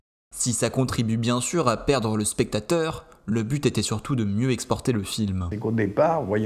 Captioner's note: french